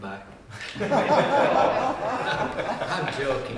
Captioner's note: audience laughter